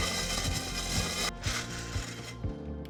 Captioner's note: hole saw grinding